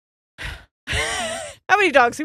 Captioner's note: sighs; laughs